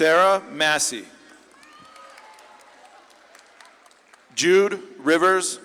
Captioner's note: audience claps and cheers